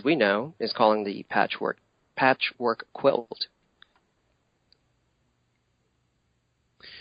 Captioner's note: audio interference